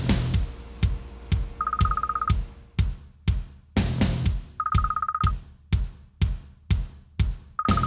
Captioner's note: timbre de teléfono